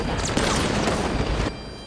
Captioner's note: gunfire